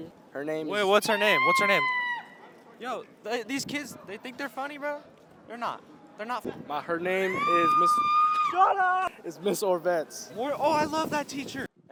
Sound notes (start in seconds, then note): 7.2 scream